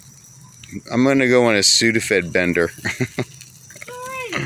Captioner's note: laughs